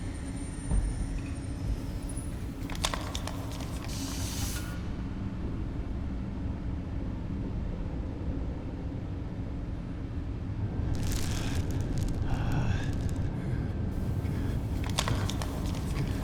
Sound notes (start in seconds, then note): 3.4 air hissing; 12.2 groaning